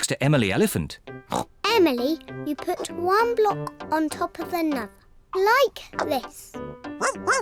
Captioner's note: oinks; barks